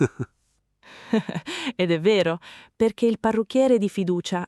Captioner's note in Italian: Haha